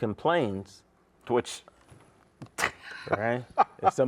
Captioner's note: chuckles